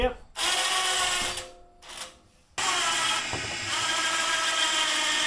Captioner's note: machine buzzing